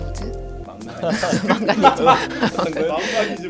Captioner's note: laughs